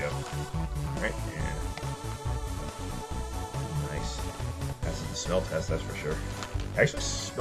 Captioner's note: sniff